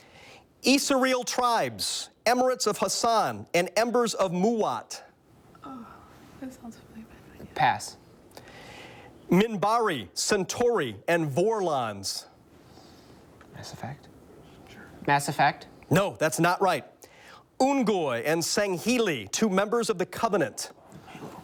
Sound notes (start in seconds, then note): 13.5 whispers